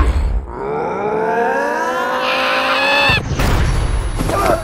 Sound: growing Scream of abject-Fanboy Terror

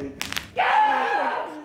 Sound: bone cracks; screaming

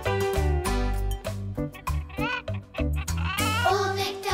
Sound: clucking

